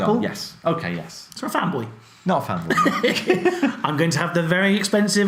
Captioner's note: laughs